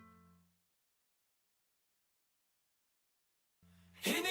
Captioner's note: silence